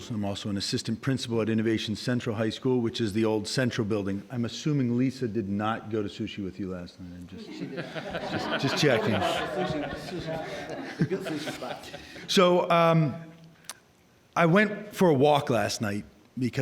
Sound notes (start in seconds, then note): 7.4 all laughing